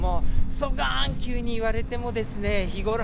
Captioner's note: Speaking in Kyushu dialect